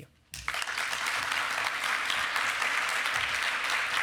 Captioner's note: applause